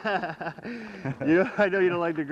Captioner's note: laughter